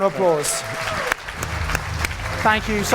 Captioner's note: audience clapping